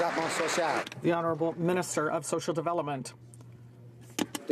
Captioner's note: some Applause